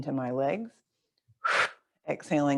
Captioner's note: exhales loudly